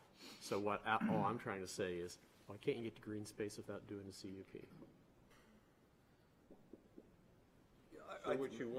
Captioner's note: snorts